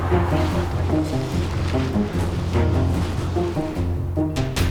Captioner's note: clothing rustling; suspenseful music